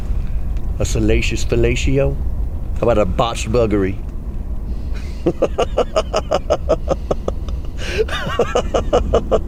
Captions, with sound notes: A salacious palatio? Or a botched buggery?" [ Laughs ]